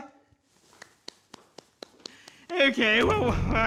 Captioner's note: claps